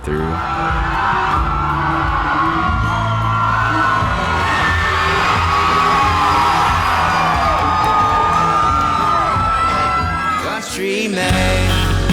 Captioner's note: cheering